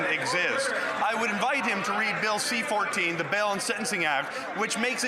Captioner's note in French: voix de l'interprète